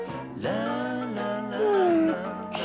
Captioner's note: yawning